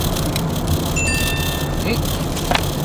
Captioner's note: text message noise